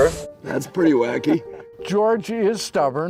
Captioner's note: laughs